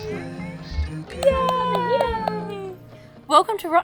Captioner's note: claps